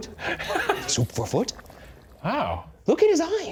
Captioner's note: laughing